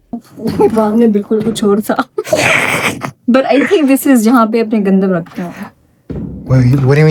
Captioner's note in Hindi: हंसी